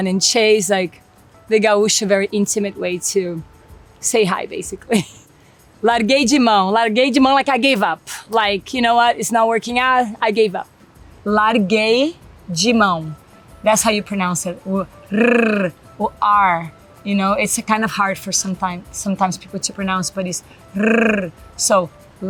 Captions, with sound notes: and then [speaks Portuguese] is like the Guicho, very intimate way to say hi basically. [laughs] [speaks Portuguese], like I gave up, like, you know what, it's not working out. I gave up, [speaks Portuguese]. That's how you pronounce it. R or r, you know, it's kind of hard for sometimes people to pronounce, but it's r, so [speaks Portuguese],